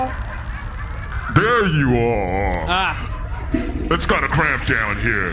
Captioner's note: call disconnects